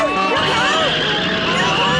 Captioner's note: tires screech